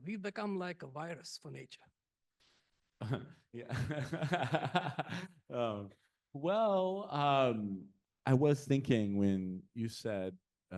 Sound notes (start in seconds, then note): 3.6 laughing